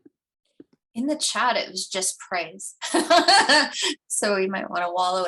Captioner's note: laughs